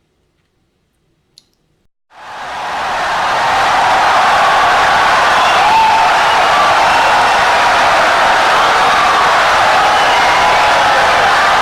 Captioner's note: wild applause and cheering for 17 seconds